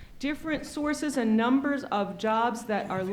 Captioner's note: men whispering in background